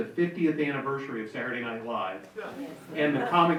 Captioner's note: audience member chuckling